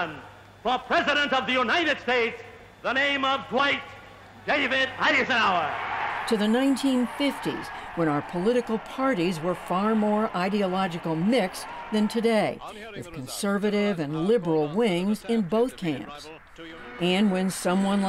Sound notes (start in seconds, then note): 5.7 cheering and applause